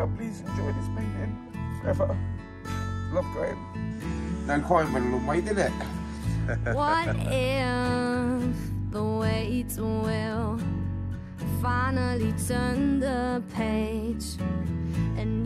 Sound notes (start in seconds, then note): 6.0 laughs